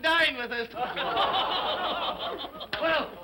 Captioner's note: all laugh sardonically